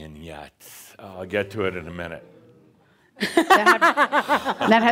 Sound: audience says “Eewww!” and laughs

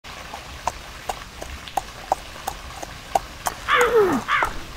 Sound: hooves clop; crow caws

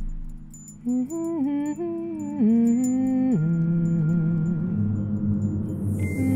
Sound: tinkling instrumental music; humming

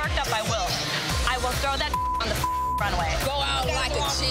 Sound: beep

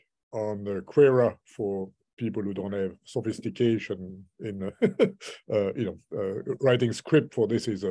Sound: laughs

